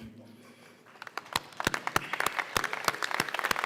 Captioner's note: applause